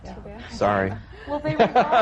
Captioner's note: he laughs